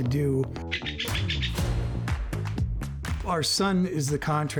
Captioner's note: woodpecker chattering